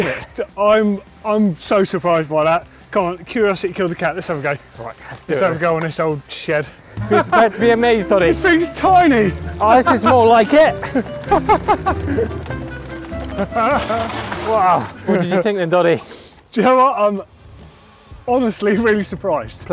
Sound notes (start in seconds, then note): 7.0 laughing